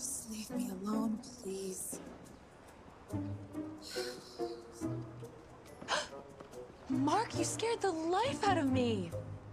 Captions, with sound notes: Just leave me alone, please. (sighing) (gasping) Jeez, Mark! You scared the life out of me.